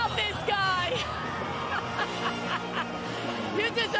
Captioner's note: laughter